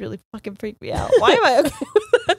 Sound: both laughing

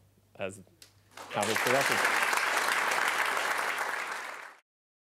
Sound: applause

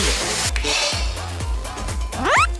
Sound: pat

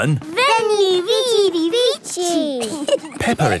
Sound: laughing

